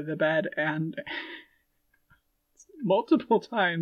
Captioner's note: laughing